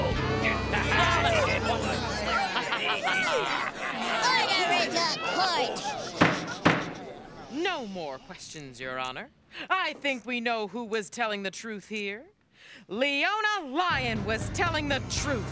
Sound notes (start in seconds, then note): 0.0 crowd talking excitedly; 6.1 pounds gavel